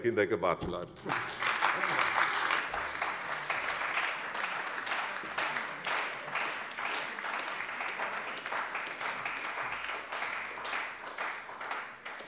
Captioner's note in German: Beifall bei der CDU und dem BÜNDNIS 90/DIE GRÜNEN